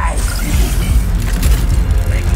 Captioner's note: whirring, clanking